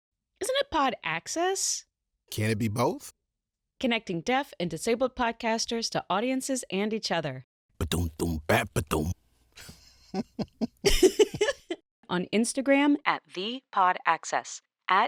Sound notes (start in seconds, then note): 9.6 laughs; 9.6 happy giggle